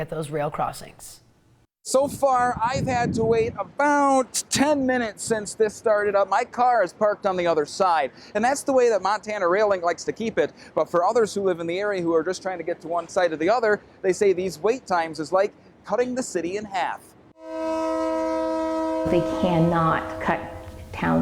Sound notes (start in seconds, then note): 14.5 nat -- train horn